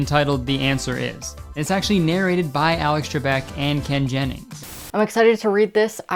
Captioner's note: Static